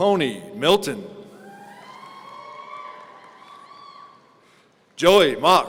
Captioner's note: audience cheering